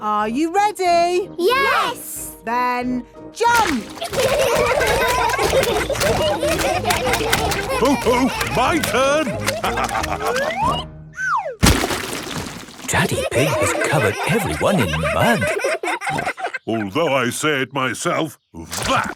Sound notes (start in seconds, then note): 12.8 all laughing